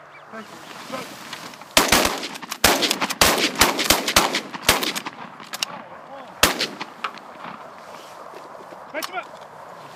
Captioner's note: gun shots